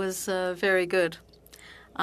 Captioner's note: speaking French